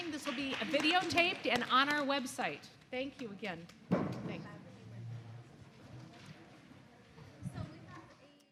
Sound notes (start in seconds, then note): 6.3 students chattering